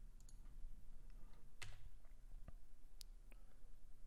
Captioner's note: clicking